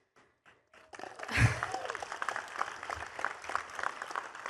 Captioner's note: attendees clapping